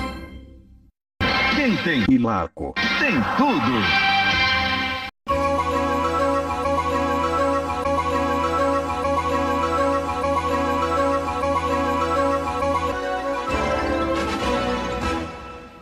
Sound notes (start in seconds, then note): 1.1 male announcer speaking Portuguese; 5.2 90s digital synth music resuming